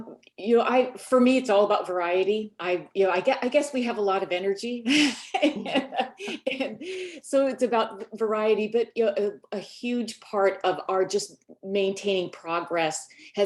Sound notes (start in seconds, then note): 5.0 laughs